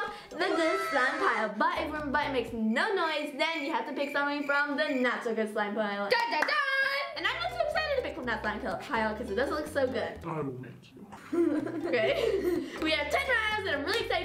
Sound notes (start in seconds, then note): 11.1 giggling